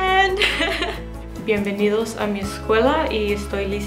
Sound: laughs

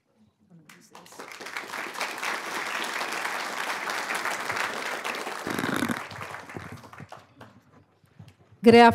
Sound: applause

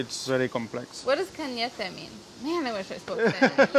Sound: speaking in foreign language

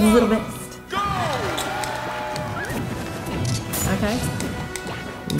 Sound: video game noises and controller clicks

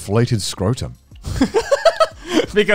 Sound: laughing

